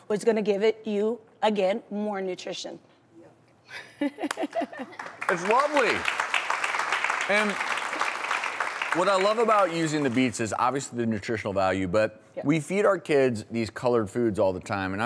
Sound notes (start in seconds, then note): 3.4 laughs; 6.2 audience claps